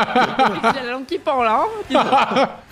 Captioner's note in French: rires